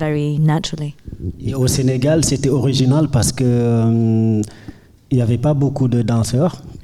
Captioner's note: speaking in French